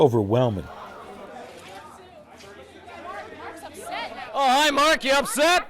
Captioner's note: crowd noise